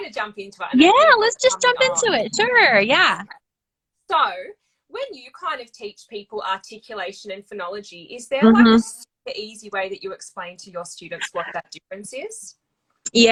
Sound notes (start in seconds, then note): 8.4 mhmm